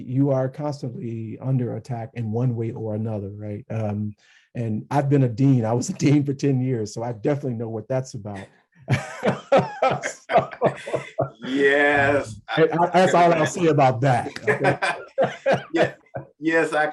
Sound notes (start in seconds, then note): 8.9 laugh; 14.2 laughs